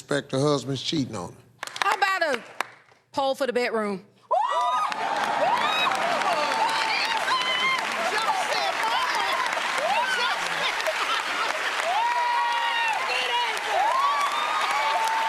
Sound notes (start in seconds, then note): 4.5 cheering; 11.2 laughter; 15.0 cheers and applause